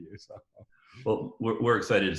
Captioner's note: laughing